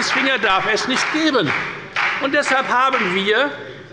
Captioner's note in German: Beifall bei der FDP